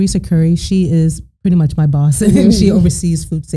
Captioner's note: both laughing